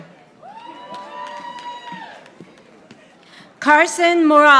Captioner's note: audience applauding